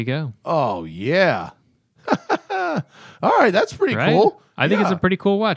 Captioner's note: laughter